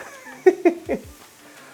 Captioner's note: laughs